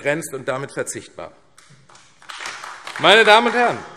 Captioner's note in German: Beifall AfD